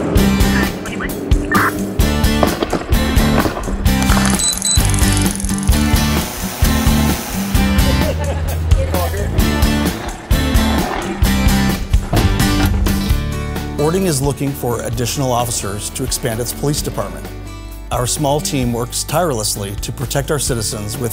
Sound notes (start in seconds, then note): 2.4 taser noises; 5.6 drone buzzing; 7.6 laughing; 9.8 scooter noises